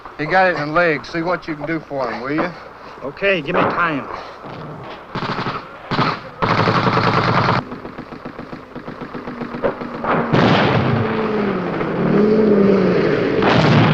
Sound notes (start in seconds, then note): 5.0 gun shots; 11.1 moving vehicle